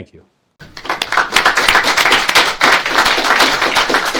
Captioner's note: audience claps